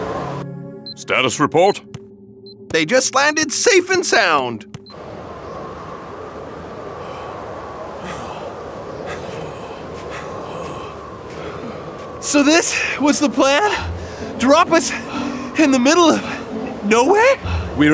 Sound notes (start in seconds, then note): 5.2 wind blowing